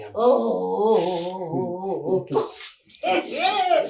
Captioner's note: laughing